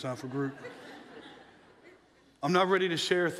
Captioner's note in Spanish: la audiencia se ríe